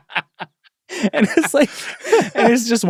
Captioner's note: laugh